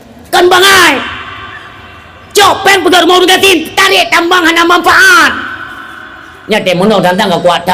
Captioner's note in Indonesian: berteriak